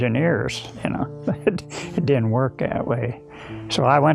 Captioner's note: chuckles